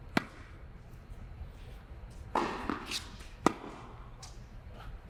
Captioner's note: ball hitting racket